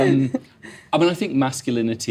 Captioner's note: audience members laughing